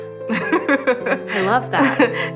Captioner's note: laughing